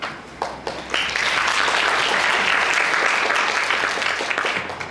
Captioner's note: audience applauds